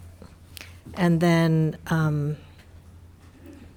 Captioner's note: none